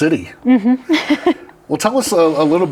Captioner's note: laughs